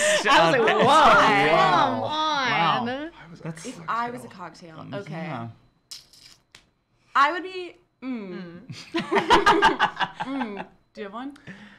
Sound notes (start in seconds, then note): 9.2 laughing